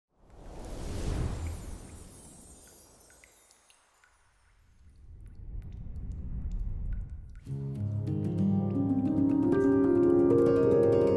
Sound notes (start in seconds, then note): 0.3 air whooshing; 4.4 water dripping; 7.5 light piano music